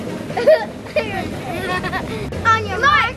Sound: laughs

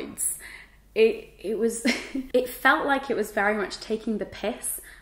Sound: chuckles

